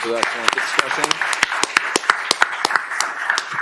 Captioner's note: applause